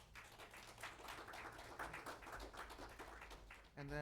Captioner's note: applause